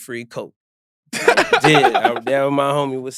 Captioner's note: laughs